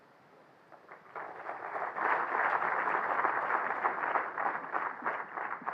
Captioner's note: claps